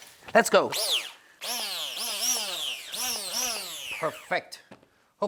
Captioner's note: blender whirs